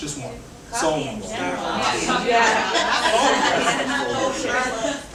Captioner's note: audience chattering